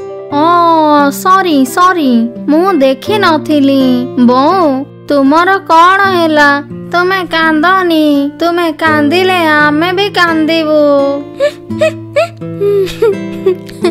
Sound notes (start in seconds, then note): 11.4 crying